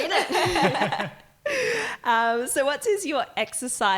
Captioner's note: laughing